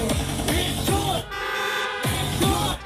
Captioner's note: car horns sound